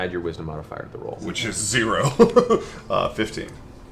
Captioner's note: laughs